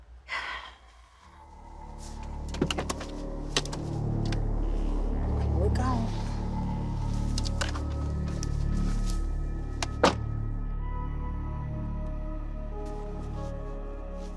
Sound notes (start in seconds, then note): 0.3 sighs; 2.2 door clicks open